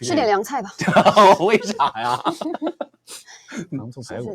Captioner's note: laughs